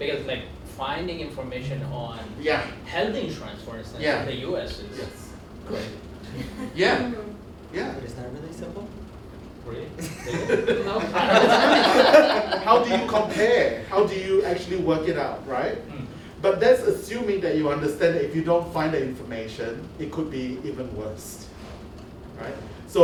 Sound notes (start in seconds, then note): 10.0 laughter